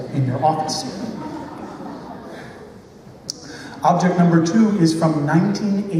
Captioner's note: laughter